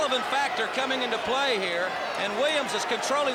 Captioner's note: crowd cheering